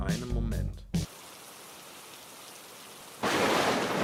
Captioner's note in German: Rain and Thunder; Lightning